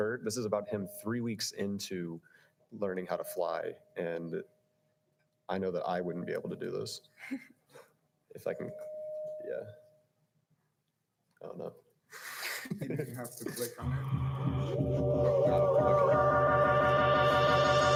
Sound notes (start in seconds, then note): 12.3 laughing; 13.7 upbeat electric music